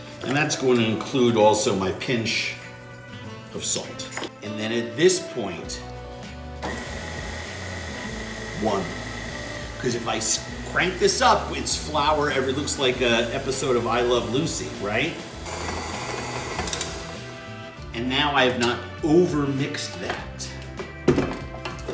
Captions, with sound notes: And that's gonna include also my pinch of salt. And then at this point, (mixer whirring) one, 'cause if I crank this up, it's flour, it looks like a episode of "I Love Lucy", right? (mixer whirs and clicks) And now I've not overmixed that.